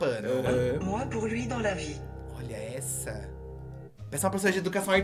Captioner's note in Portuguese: narração em francês